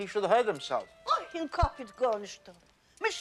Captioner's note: speaking in foreign language